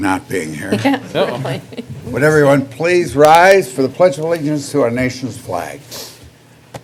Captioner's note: laughter